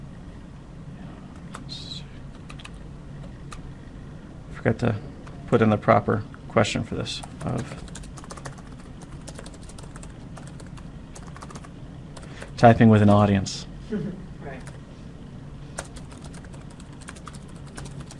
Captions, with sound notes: forgot to put in the proper question for this [typing] Typing with an audience [chuckle]